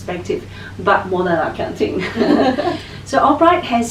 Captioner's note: laughing